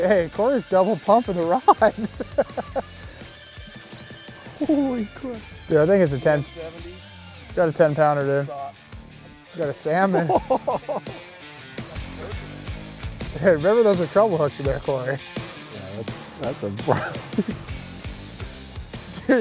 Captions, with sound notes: Hey, Cory's double-pumping the rod. (laughs) Holy crap, yeah I think it's a ten. Got a ten-pounder there. Got a salmon. (laughs) Hey really those are treble hooks in there, Cory.